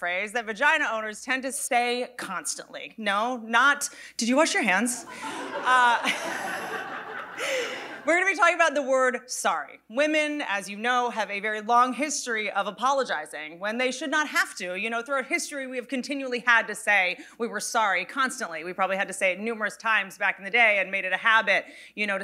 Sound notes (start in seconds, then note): 5.0 audience laughing